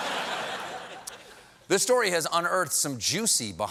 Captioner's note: laughter